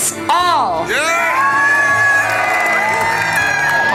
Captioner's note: applause